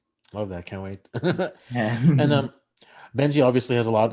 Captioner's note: laughs